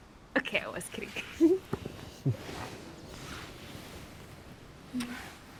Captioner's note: laughs